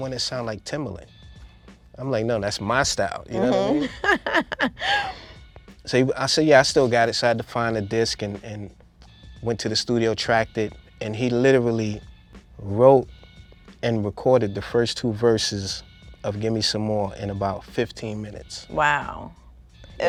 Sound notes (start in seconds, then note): 3.3 laughing